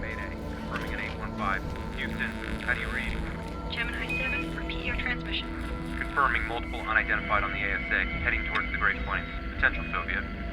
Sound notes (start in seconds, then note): 3.2 woman over radio